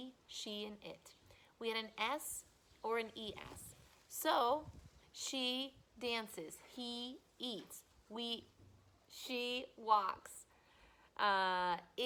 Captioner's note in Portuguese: respira